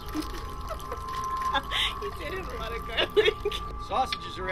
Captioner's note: laughs; laughs